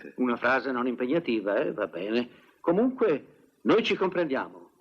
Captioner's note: imitates English accent